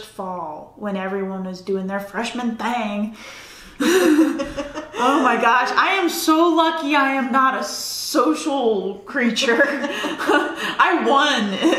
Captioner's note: laughter